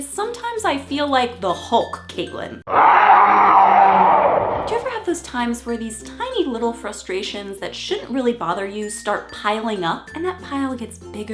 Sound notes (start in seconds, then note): 2.6 hulk scream